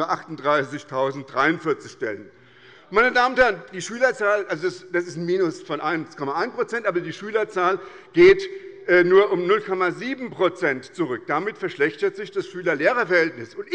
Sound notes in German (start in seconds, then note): none